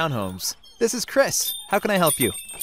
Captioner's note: bells jangling